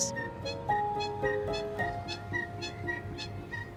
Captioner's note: birdsong